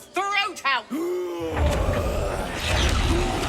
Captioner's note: roars